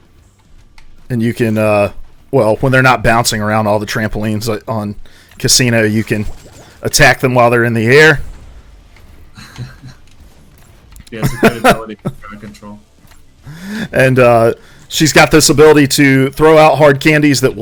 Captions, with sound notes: And you can, well, when they're not bouncing around on all the trampolines on casino. You can attack them while they're in the air. (laughs) - And she's got this ability to throw out hard candies that will stun.